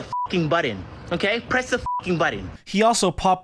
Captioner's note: beep